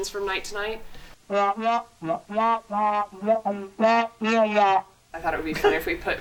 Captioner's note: speaker audio distorted